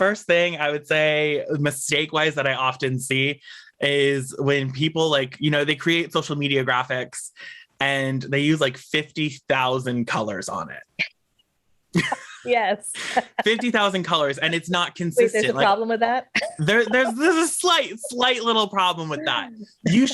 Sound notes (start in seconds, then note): 12.1 laughs